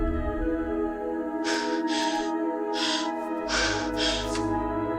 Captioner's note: gentle ethereal music; Ally panting